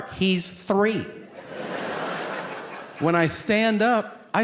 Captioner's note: audience laughing